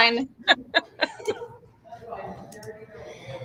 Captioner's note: laughing